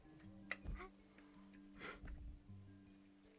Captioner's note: gasps